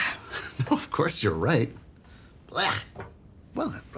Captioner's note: laughs